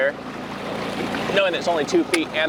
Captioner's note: water splashing